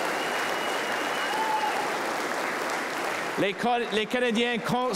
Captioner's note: cheers and applause